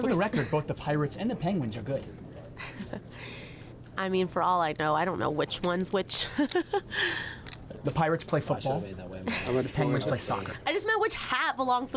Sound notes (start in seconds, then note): 7.4 laughs